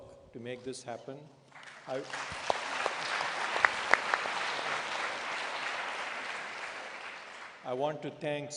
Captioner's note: applause